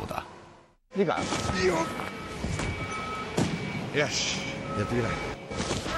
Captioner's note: worker speaks in Japanese